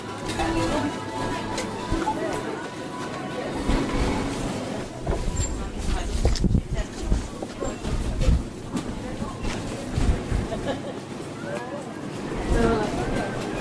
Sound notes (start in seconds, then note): 0.0 door closing; 5.1 door opening, mixed conversation; 10.4 laughter